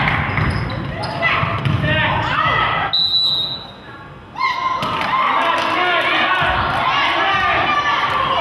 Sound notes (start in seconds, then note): 2.9 whistle blows